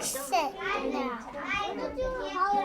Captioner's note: background chatter